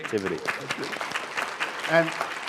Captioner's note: applause